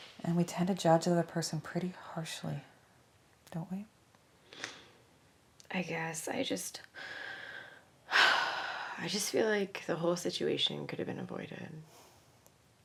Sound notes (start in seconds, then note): 4.5 Vanessa sniffles; 7.0 deep breathinng in; 8.1 high sigh